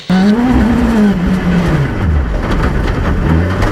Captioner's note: engine noise